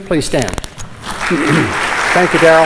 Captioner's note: applause